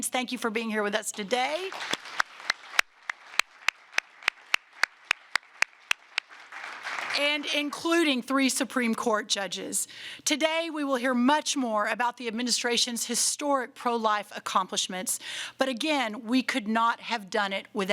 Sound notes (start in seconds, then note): 1.2 applause